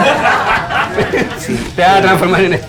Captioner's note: laughs